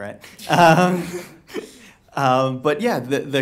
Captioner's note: laughing